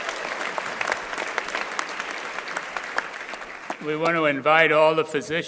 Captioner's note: crowd applauding